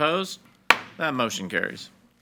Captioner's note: gavel bangs